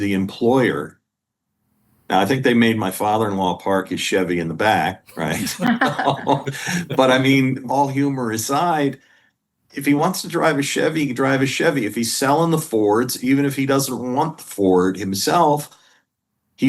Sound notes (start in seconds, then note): 5.1 laughter